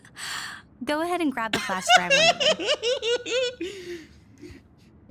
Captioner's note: giggles